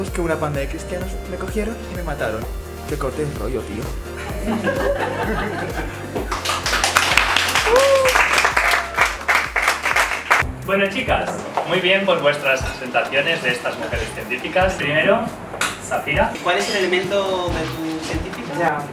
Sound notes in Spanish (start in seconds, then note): 4.2 risas; 6.2 aplausos